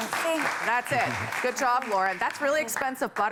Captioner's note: applause